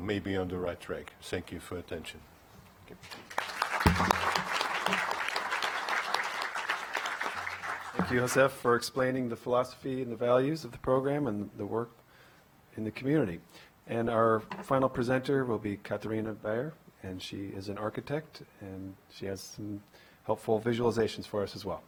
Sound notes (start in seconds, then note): 8.9 applause